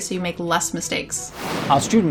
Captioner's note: air whooshing